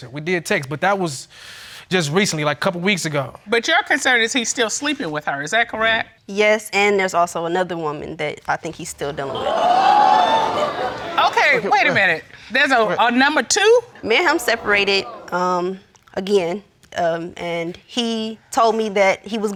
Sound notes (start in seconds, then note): 9.0 audience exclaims